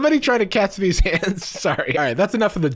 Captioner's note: laughing